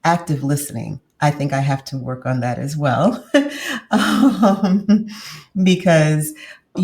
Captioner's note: laughs